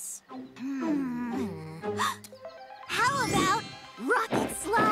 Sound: gasps

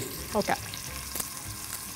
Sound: speaking in foreign language

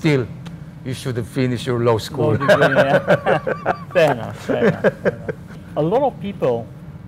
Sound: both laugh

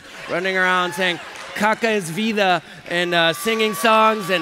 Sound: applause

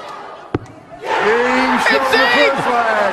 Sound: crowd cheering

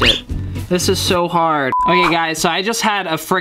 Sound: beep

